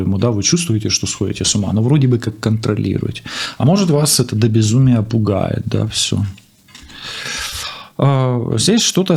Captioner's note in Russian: тяжело вздыхает